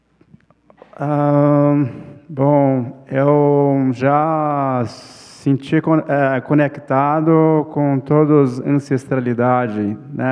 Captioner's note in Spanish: ponente habla en portugués